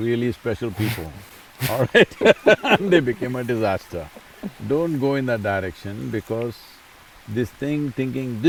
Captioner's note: laughs